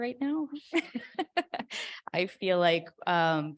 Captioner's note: chuckling